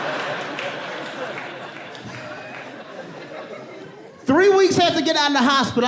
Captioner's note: audience gasp